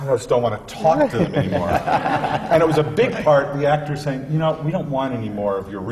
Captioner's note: laughter